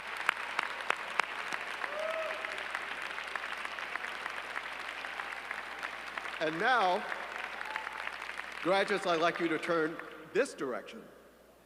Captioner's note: applause